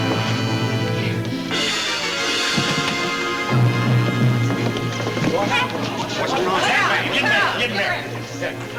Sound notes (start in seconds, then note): 6.6 people chatter